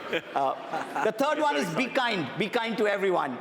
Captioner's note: chuckles